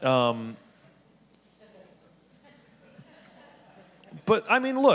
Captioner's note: audience laughing